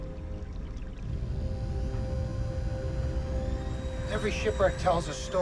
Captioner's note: gentle music; machine whirring